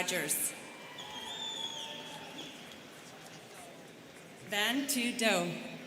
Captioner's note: students whistling